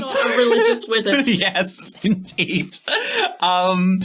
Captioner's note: laughing